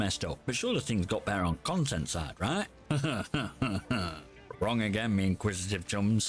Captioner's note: sarcastic chuckle